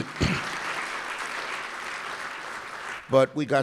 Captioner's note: applause